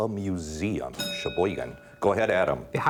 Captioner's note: bell dinging